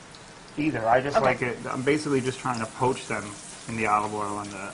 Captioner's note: sizzling